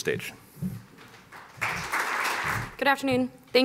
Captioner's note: applause